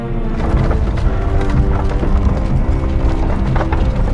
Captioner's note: carriage rumbles